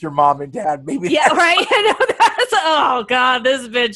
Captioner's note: laughs